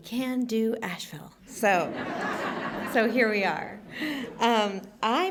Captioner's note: laughter